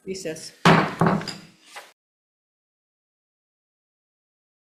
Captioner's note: gavel bangs